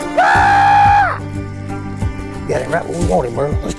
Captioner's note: screams